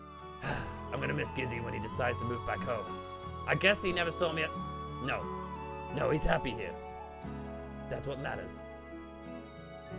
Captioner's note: sigh